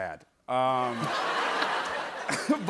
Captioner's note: laughter